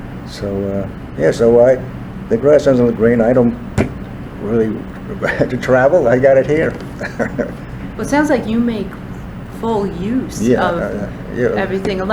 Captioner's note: laughs